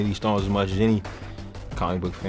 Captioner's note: inhale